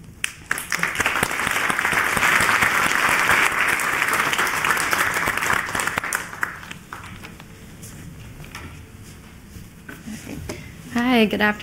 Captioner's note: applause